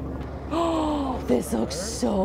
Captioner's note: gasps